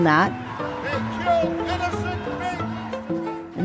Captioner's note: picketing, protesting sounds